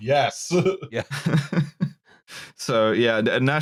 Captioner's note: laughs